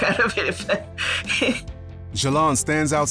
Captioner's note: laughs